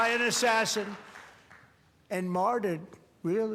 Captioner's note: cheers and applause